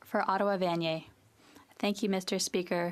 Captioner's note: speaking French